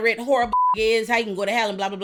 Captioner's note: beep